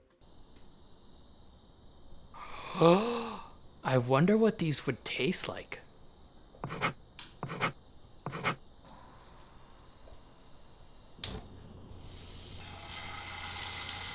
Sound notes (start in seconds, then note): 0.2 crickets chirping; 2.4 gasp!; 6.6 pencil on paper; 8.2 pencil on paper; 9.0 crickets chirping; 11.2 click; 11.4 deep sizzle; 11.7 sizzle